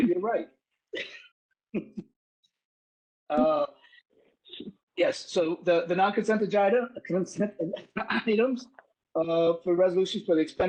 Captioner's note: laugh